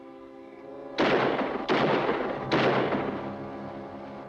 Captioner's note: dramatic music; gun firing in distance